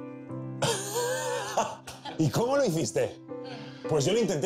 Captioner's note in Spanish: Risas